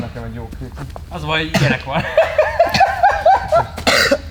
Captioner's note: laugh